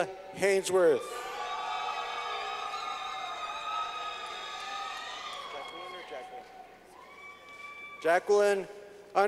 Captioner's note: clapping